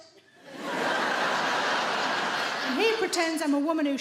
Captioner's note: audience laughing